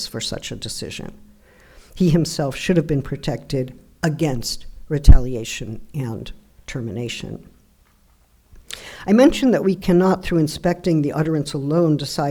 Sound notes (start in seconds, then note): none